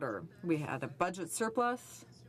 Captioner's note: speaking french